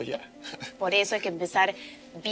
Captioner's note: laughing